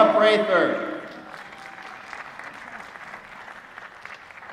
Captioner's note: applause